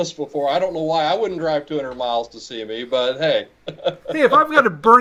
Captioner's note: chuckling